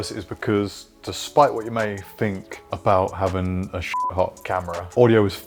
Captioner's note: beep